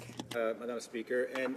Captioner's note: speaking French